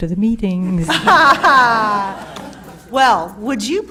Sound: laughter

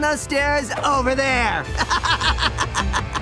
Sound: laughing

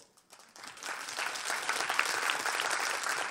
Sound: applause

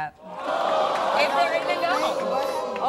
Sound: audience gasps

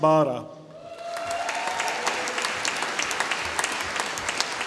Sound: audience applauding

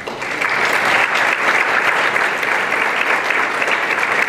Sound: applause

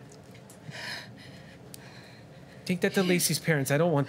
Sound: anxious breathing

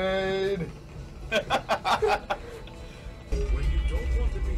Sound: laughs

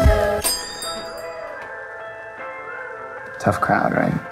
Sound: bell rings

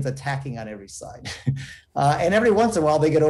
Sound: chuckles

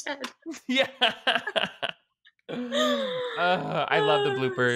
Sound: both laughing

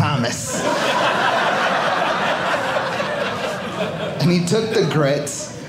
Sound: audience laughing

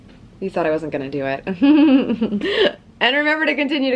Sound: laughing

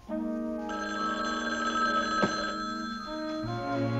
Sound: phone ringing

